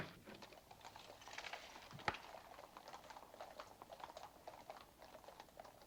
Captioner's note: horse hooves clomping